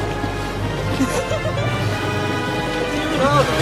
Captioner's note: laughs